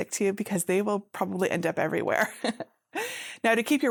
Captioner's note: laughs